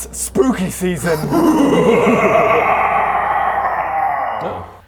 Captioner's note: mwhahahahahahahahahahahahahaha